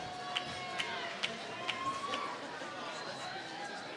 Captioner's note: applause